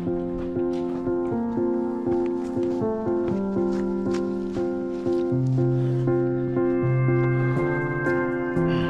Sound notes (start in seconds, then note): 4.3 footsteps pounding